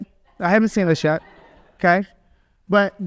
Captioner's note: audience laughs